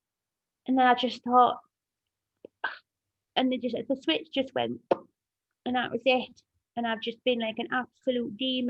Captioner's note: pop noise